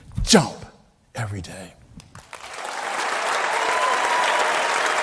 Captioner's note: crowd applauding